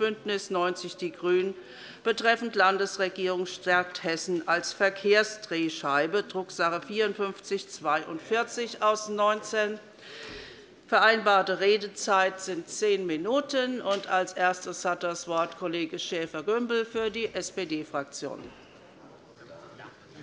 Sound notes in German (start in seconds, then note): none